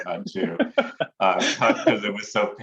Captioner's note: laughing